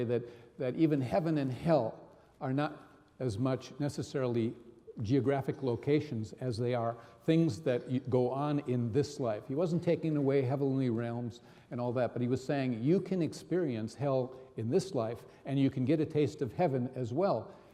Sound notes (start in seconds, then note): none